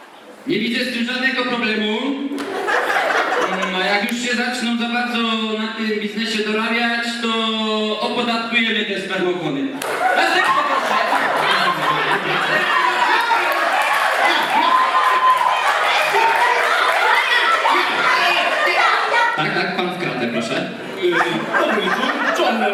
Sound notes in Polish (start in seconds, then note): 12.5 Aplauz